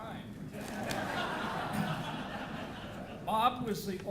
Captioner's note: audience laughing